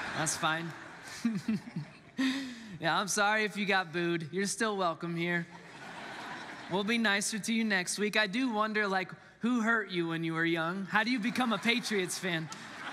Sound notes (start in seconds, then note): 0.8 laughs; 5.4 congregants laughs